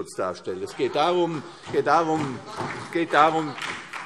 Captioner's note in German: Beifall CDU und BÜNDNIS 90/DIE GRÜNEN - Zuruf AfD